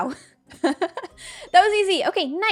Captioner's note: laughs